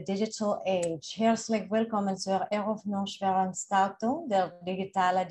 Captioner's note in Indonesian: Bahasa Jerman